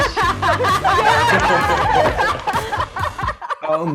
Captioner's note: laughing